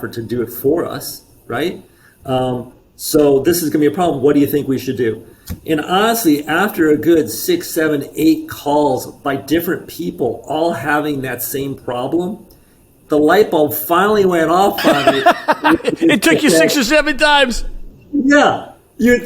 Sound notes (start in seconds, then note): 14.7 laughs